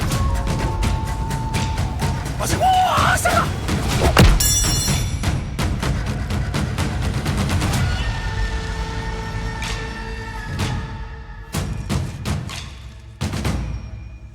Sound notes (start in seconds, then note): 2.5 Yuki shouting; 4.1 blow clanging